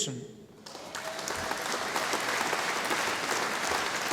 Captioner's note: audience applauding